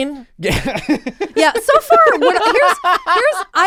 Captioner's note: laughs